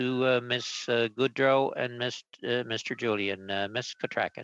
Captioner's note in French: voix de l'interprète